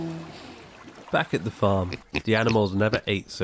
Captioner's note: Otis oinks and chomps